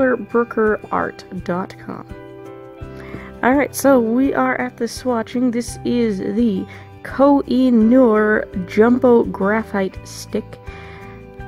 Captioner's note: sighs